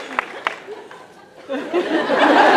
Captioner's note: whispers